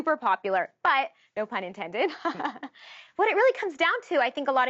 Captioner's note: laughs